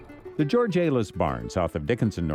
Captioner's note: voiceover